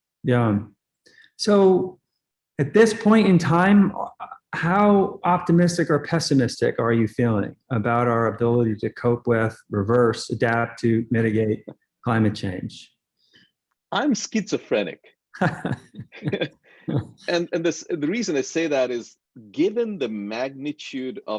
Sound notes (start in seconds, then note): 15.4 laughing